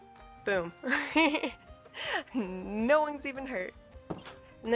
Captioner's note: laughs